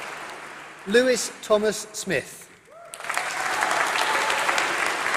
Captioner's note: applause